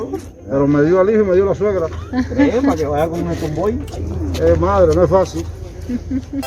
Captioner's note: laughs